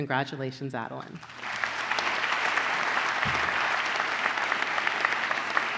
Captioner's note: applause